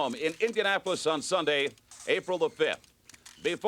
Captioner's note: cameras click